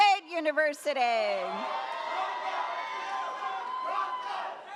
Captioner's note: audience cheers